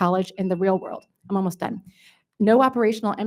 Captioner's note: device beeps